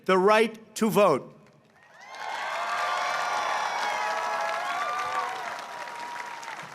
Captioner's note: applause